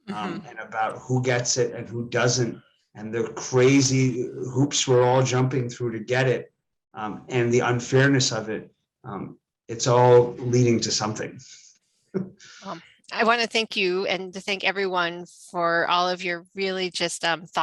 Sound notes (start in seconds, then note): 12.1 laughs